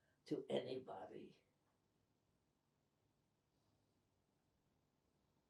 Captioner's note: pauses 8 seconds